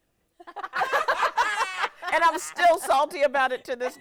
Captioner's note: hosts laughing